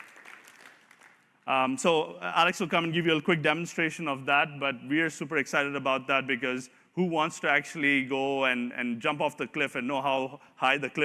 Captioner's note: applause